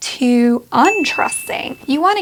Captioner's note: bell dings